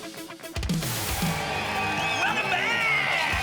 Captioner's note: applause and cheering